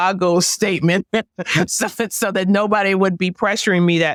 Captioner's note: laugh